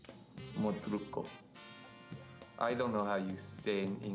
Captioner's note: speaking in foreign language